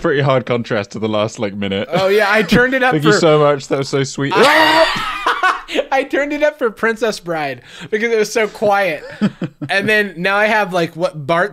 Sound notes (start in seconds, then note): 4.4 laughter